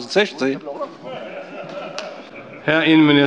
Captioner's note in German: Lachen bei Abgeordneten der SPD und der LINKEN